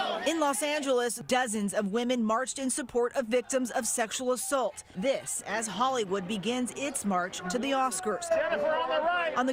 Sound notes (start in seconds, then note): 3.2 crowd chanting